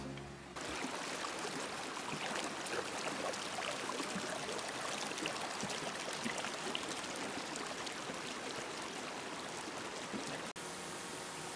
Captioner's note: water flowing